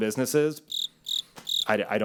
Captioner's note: crickets chirping